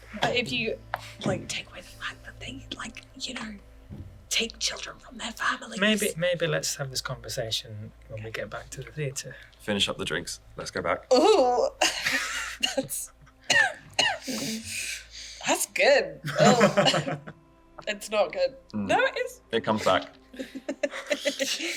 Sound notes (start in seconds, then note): 4.2 whispers; 14.6 coughs